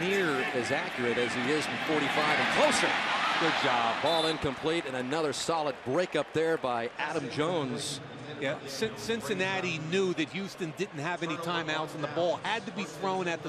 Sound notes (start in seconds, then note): 8.2 pa announcement